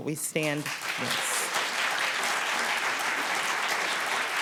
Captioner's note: applause